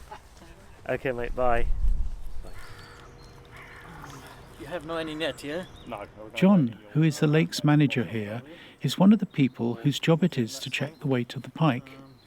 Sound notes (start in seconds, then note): 2.4 general low chat